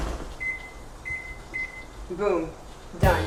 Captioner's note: oven buttons beeping